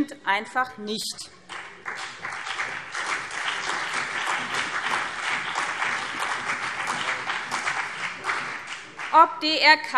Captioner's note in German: Beifall BÜNDNIS 90/DIE GRÜNEN und CDU